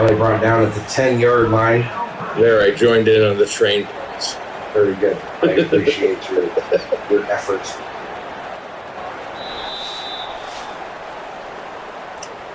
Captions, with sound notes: They're only brought down at the 10 yard line. [Crowd Noises] There I joined in on the train points. Very good. [LAUGH] I appreciate your efforts. [Crowd Noises]